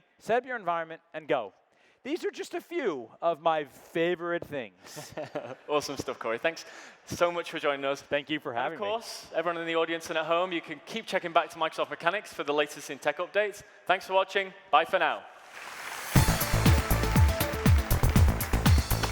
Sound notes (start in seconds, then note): 4.8 laughing; 15.4 audience applause; 15.4 upbeat music